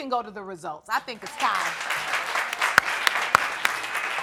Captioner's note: audience clapping